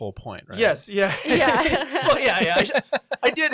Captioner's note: laughs